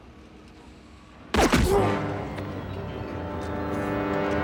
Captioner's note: grunts